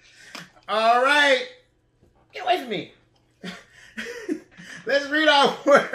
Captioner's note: chuckles